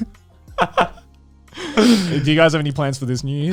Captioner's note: laughing